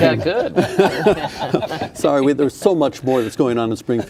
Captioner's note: laughing